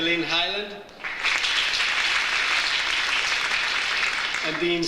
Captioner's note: audience applauds